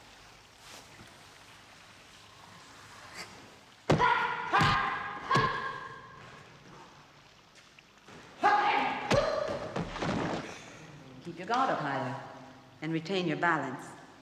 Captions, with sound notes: [Fight noises] [Fight noises] Keep your guard up, my love ...and retain your balance.